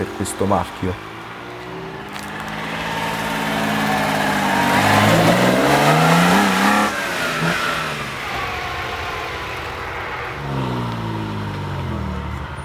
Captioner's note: Dino's engines SOUND